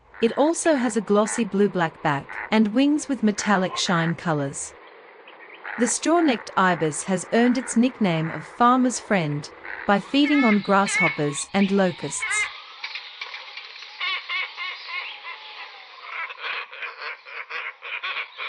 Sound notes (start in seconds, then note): 12.3 glossy Ibis sound